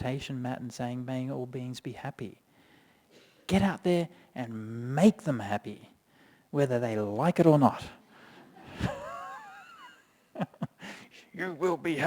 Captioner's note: chuckles